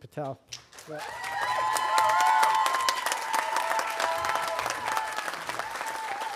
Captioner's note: audience applauding and cheering